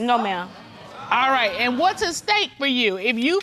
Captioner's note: audience exclaims